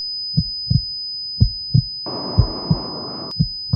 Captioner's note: slow heartbeat